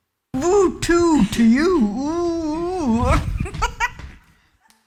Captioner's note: laughs